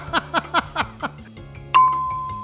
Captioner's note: laughter